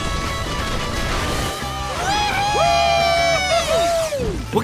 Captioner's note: cheering